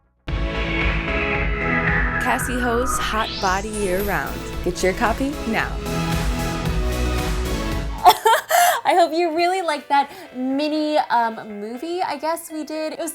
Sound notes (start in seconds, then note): 0.3 upbeat music; 8.0 laughing